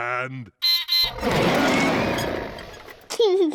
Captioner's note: beeps and roars; laughs